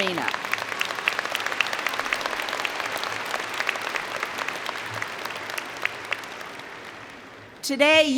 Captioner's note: applause